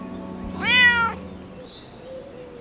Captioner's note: meow